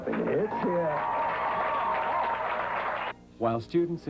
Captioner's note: crowd; cheering